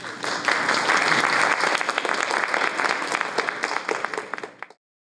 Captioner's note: applause